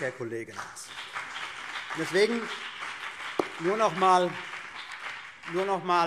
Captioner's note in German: Beifall BÜNDNIS 90/DIE GRÜNEN